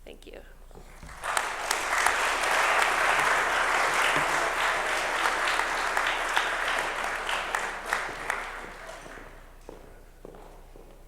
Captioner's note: applause